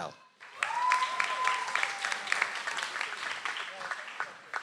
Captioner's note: audience applauds